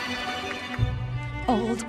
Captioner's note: applause